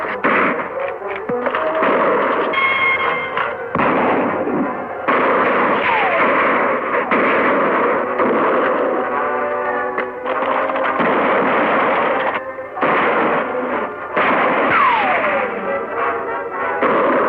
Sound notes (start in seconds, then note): 0.1 gunshots firing; 9.9 hooves clopping; 11.9 bullets ricocheting; 12.7 gunshots firing